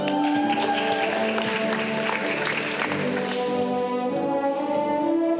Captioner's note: audience clapping